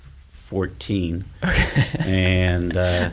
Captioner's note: laughs